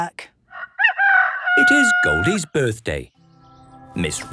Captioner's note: rooster crowing